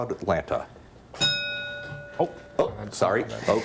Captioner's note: bell dings